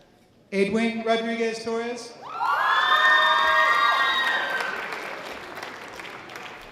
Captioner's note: audience applause